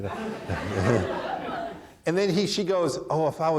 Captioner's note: chuckles; audience laughing